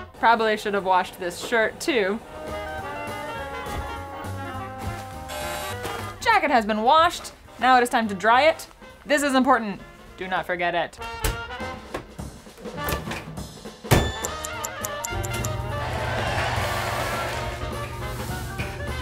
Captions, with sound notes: Probably should have washed this shirt too. (washer buzzes) Jacket has been washed. Now it is time to dry it. This is important, do not forget it. (old-time music continues) (audience cheering)